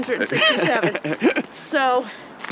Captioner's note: laughs